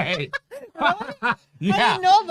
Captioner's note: laughs